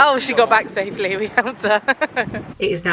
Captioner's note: chuckles